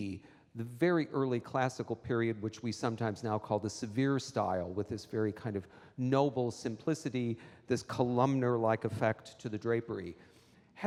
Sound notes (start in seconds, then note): none